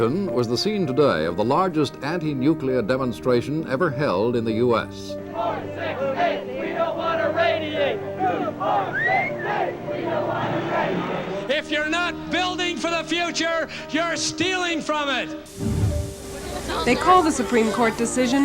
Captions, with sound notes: Reporter:Washington was the scene today of the largest anti-nuclear demonstration ever held in the US. [chants] four-six-eight! We don't want to radiate! two-four-six-eight! We don't want to radiate! If you're not building for the future, you're stealing from it! Reporter:They call the supreme court decisiona t,